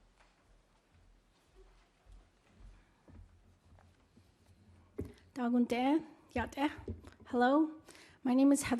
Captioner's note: foreign language